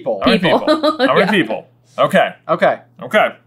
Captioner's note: laughs